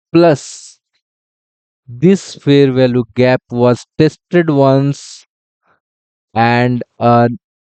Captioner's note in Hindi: नाक से की जाने वाली आवाज़